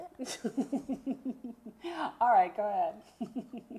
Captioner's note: laughs